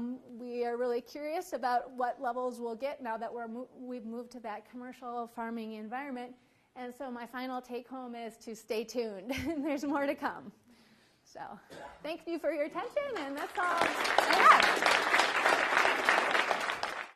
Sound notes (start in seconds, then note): 13.1 applause